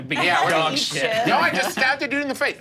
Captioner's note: laughs